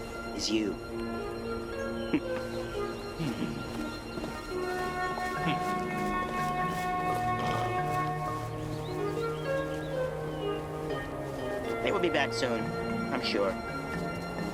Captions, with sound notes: is you. (chortles) They will be back soon, I'm sure.